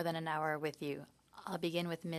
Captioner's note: speaking in French